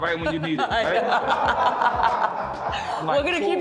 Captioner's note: laughter